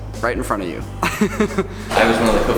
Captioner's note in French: Rires